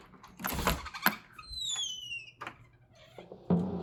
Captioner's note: door opens